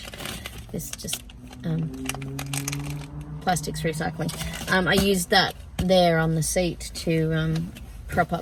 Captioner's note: plastic crinkles loudly